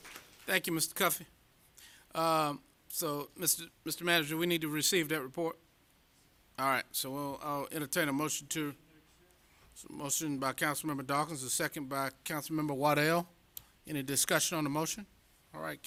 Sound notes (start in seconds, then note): 0.0 applause